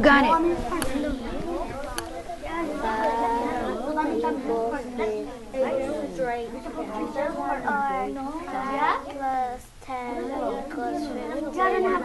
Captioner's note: talking amongst themselves